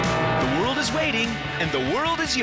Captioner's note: airplane whirring